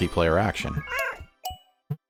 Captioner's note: meow